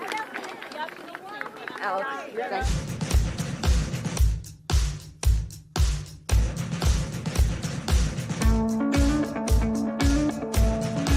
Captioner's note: chanting; cheering